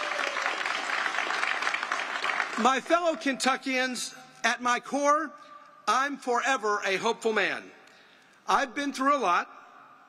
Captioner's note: applause